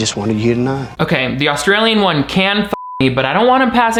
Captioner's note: beep